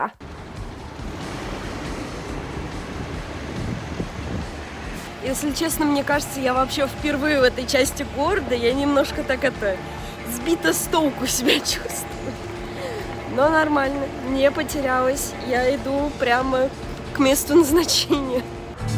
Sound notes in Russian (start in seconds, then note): 12.6 смех